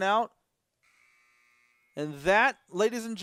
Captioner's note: buzzing